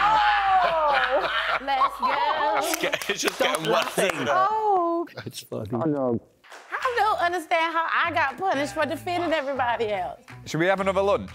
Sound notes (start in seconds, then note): 0.1 laughing; 2.7 cheering